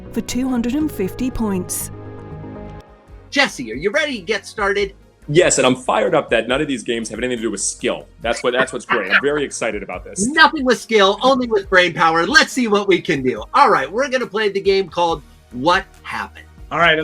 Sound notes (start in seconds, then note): 8.3 laughs